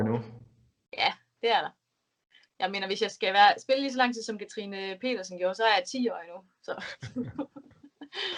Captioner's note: laughs